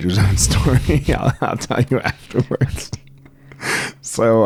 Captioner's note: laughs